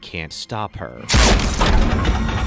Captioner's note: gunshot